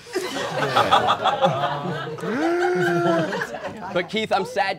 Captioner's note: all laughing